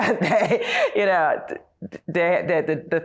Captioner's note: laughs